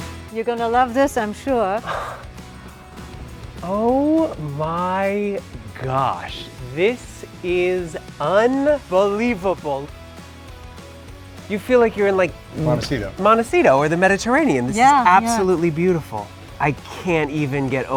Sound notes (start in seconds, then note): 1.8 gasps